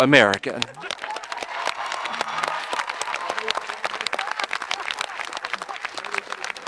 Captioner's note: audience applauding and cheering